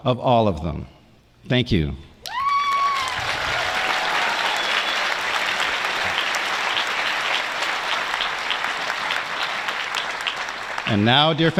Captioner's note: applause